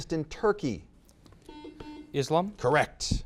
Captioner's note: buzzer beeps